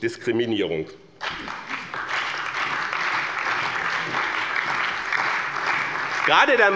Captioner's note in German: Beifall bei dem BÜNDNIS 90/DIE GRÜNEN, der CDU, der SPD und der LINKEN